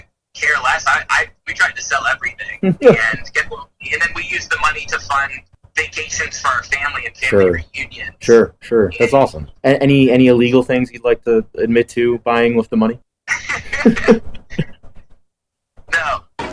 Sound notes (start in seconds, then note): 2.6 laughs; 13.3 both laugh